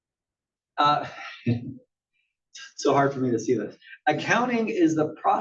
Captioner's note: laugh